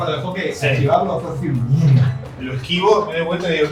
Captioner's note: whoosh